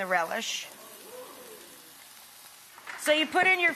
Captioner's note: audience swoons